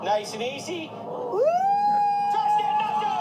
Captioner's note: cheering